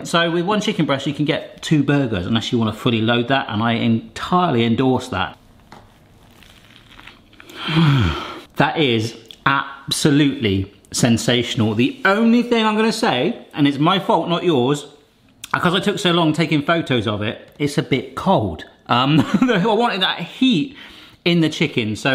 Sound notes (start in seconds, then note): 7.3 exhaling